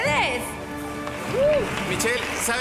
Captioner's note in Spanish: Aplausos